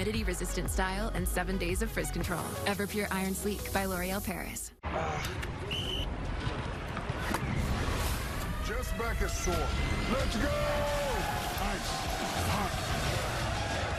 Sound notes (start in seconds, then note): 5.6 whistle blows; 12.9 chanting